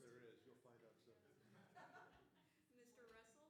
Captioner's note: laughter